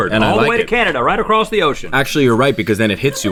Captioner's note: laughing